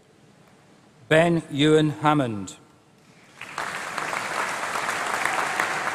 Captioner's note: applause